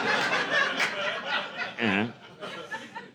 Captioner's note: laughter